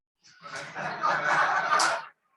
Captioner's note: laughter